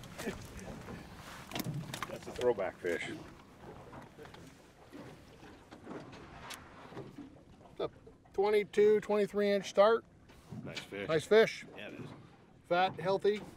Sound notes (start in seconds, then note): 0.1 chuckling